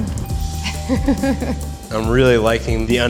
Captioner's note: chuckles